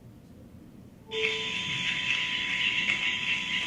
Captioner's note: insect sounds